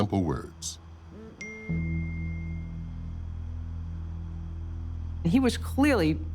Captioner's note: ding